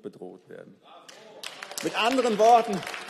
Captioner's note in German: Beifall